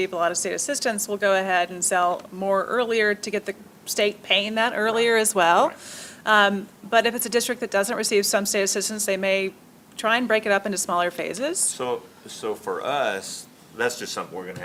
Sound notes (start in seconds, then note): none